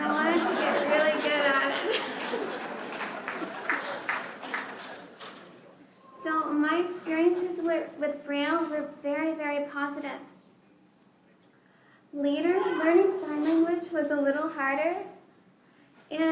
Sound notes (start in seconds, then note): 0.0 laughter; 4.6 applause